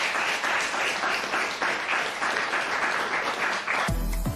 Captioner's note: applause